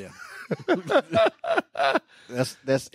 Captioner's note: laughing